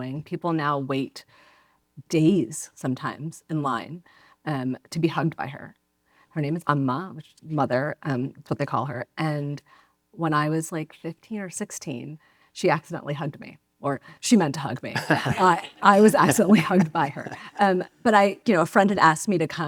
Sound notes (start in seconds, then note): 14.9 laughs